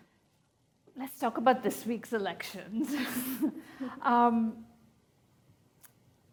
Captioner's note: chuckles